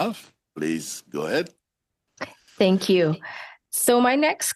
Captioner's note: speaking French